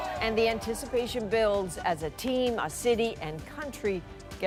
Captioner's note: cheering